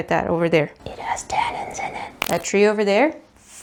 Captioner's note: whispers